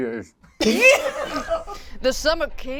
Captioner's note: all laugh